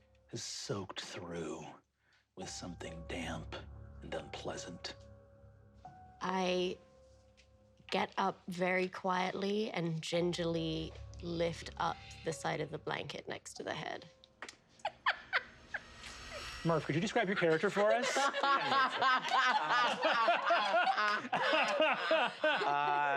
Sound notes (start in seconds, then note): 14.8 laughing; 18.9 players laughing